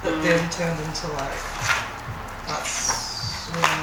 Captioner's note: paper rustling